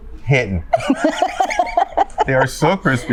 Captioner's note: both laugh